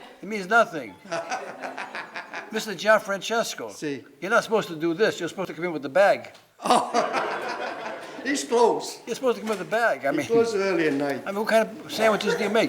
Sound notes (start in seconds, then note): 0.9 laughing; 6.6 laughing